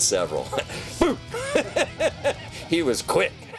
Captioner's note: laughs